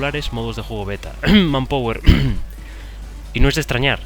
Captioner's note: cough